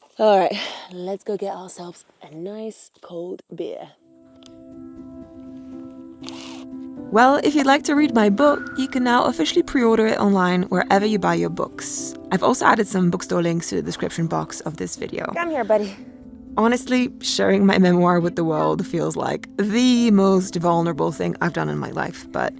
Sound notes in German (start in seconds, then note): 4.6 Elektrowerkzeug surrt; 4.6 sanfte Instrumentalmusik